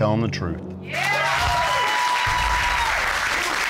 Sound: audience cheers

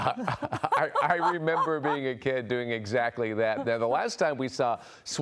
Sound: laughter

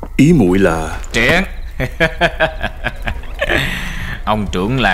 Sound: laughing

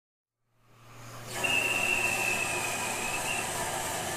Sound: sound: steam engine whistling

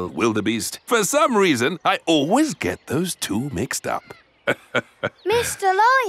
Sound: laughs

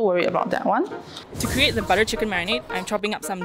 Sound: voiceover

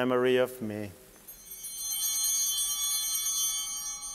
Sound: bell ringing

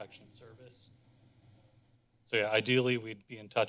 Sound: pause

